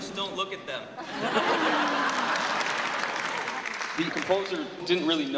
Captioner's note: audience laughs